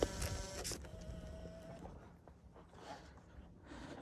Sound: camera shuts down

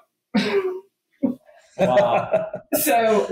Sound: laughing

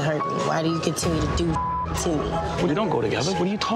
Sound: beeps

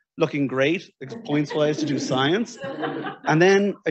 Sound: audience laughing

